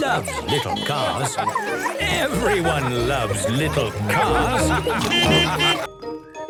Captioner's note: beeping and laughing; laughter; beeping